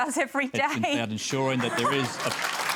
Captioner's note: laughter and applause